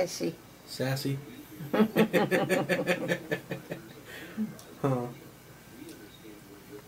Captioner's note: laughs